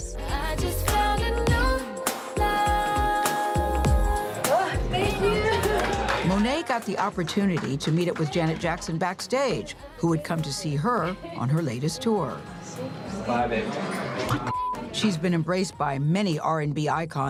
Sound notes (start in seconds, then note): 0.2 singing; 4.4 sighs; 12.5 background chatter; 13.6 quietly